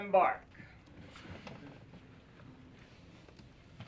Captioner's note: snickering